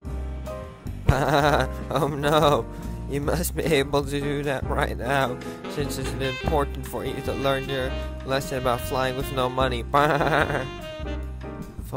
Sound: baa

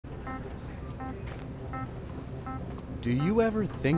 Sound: crowd murmuring

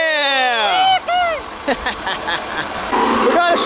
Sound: group cheers

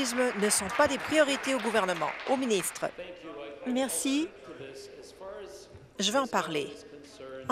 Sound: applause

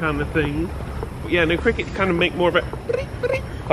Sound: chirping

